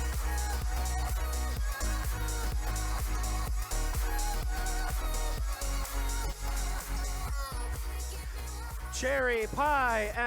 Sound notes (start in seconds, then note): none